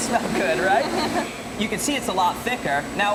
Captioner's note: laughs